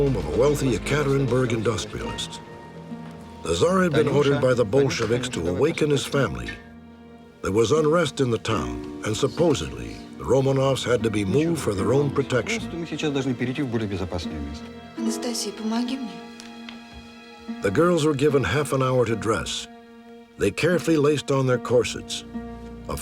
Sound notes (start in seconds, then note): 12.6 speaking russian